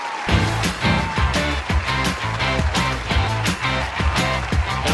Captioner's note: audience cheering